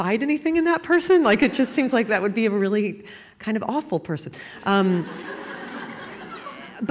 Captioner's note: laughter